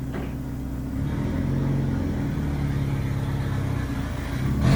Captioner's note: engine noise